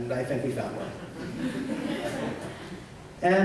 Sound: laughter

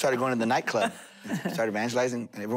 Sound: laughter

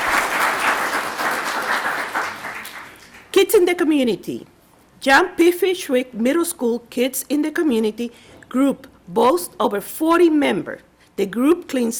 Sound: applause

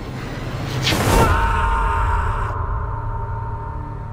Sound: man screams

